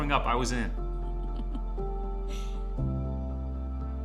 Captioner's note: Mae giggles; gentle wistful music